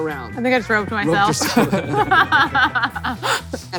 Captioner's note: laughs